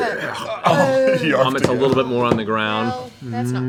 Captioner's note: vomiting noises